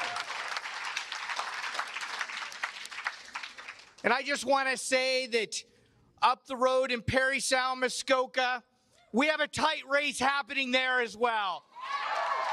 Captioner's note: cheers and applause